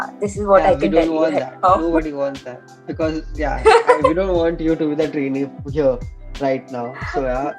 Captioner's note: laughs